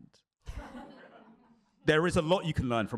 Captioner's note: laughter